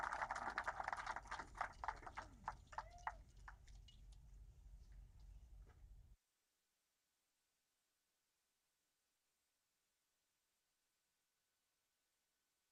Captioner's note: applause